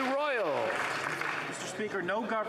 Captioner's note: some Applause